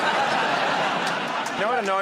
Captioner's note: laughter